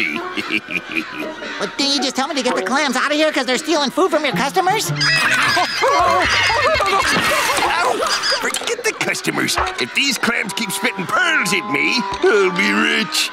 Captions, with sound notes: [chuckling] Didn't you tell me to get the clams out here because they're stealing food from your customers? [screaming] Forget the customers, if these clams keeps spitting pearls at me, we'll be rich!